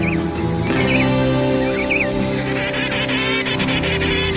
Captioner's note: birds tweeting